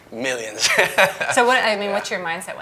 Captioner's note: laughing